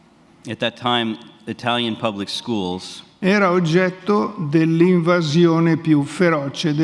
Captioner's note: speaks in Italian; speaks in Italian